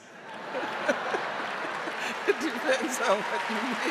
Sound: audience laughing and applauding

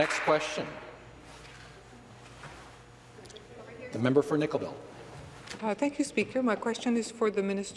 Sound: some Applause

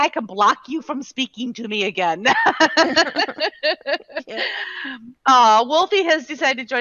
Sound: laughing

